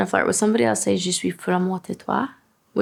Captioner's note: speaks French